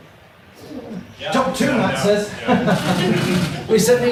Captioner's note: audience laughs